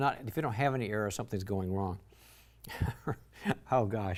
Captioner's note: chuckles